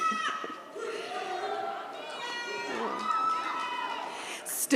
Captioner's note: audience cheers